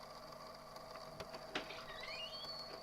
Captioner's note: door opens